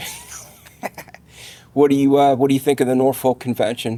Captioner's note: laughing